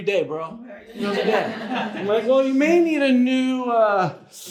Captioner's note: audience laughs